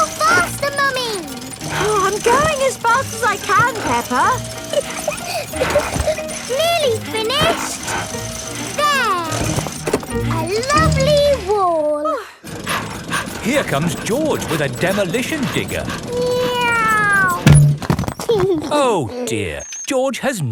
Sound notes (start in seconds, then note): 4.7 peppa laughing; 12.9 daddy pig panting; 16.3 george imitates airplane; 18.5 george giggles